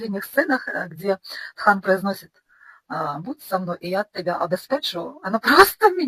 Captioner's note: delivered with a Georgian accent